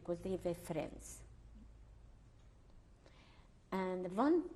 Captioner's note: pauses for 3 seconds